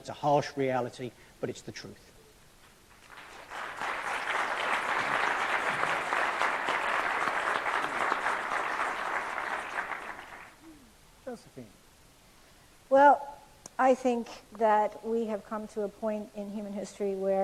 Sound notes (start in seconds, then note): 2.9 applause